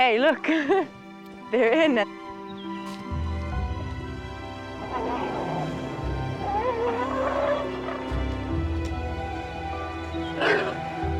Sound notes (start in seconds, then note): 0.4 chuckles; 4.7 grunting, trumpeting